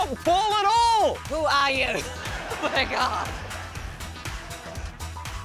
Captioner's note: laughs